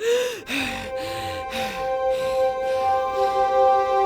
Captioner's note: angry gibberish; heaving